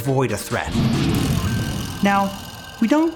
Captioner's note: bear roaring